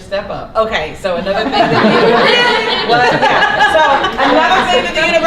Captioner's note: laughter